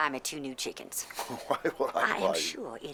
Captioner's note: chuckling